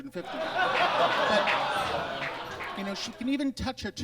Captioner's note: audience laughs